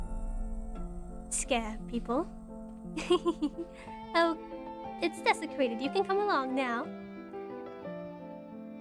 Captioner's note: laughs